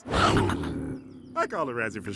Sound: snarling

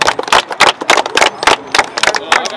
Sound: clapping

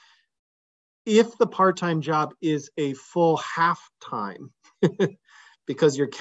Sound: laughs

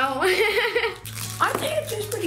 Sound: laughing

